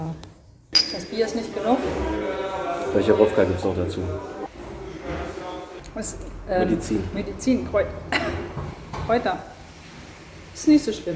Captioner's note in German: hust